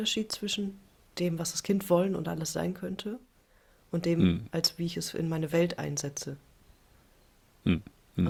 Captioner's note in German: räuspern